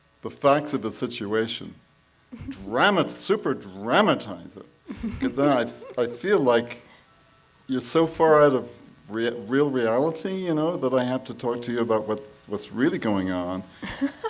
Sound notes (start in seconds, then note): 4.8 laughs